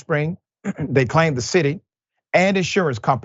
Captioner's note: cough